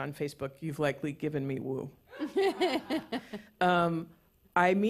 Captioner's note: laughter